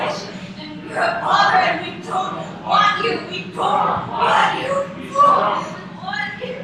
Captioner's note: echoes